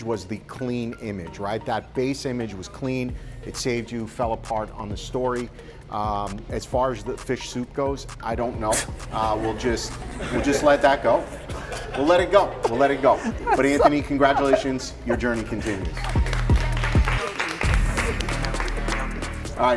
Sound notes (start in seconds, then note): 9.2 competitors laugh; 16.9 competitors clapping